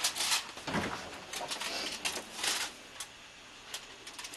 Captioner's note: Trent sniffs